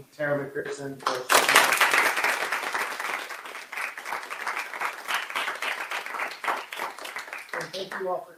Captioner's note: applause